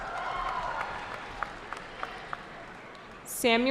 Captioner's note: cheering